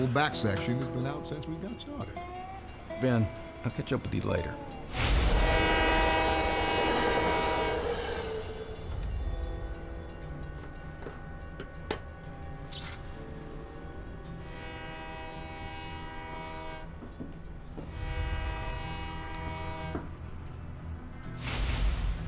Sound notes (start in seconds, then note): 8.1 train horn; 12.6 snapping, short-circuiting; 13.2 train horn; 16.8 footsteps, train horn